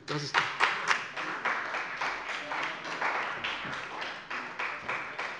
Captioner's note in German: Beifall bei dem BÜNDNIS 90/DIE GRÜNEN und der CDU